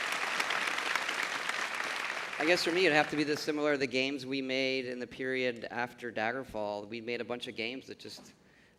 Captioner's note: applause